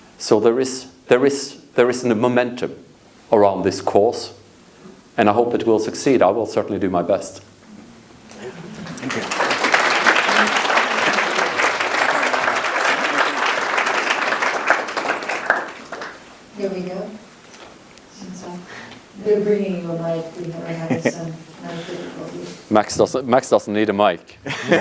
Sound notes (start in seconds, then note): 8.3 audience applauds